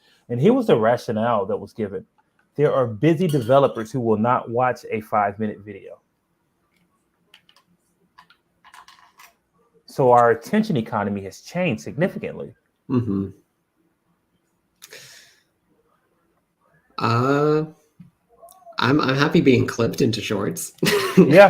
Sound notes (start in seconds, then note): 6.2 clicking